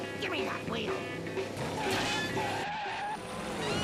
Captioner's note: tires screeching